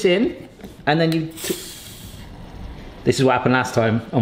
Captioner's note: can hisses